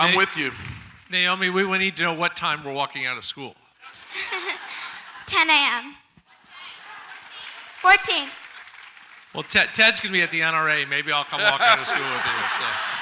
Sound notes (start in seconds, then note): 3.9 audience laughs; 12.8 audience laughs